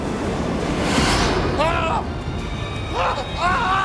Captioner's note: screaming